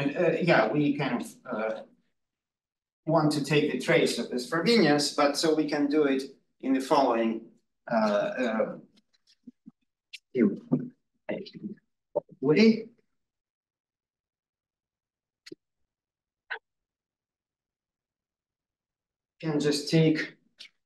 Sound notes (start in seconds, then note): 10.1 audio distorting